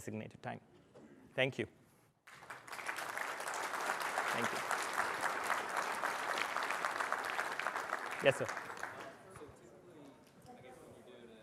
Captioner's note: applause